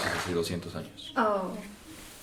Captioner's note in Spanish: Aplauso se detiene